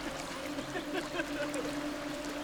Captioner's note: giggling